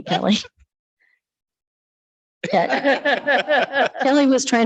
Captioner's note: light laughter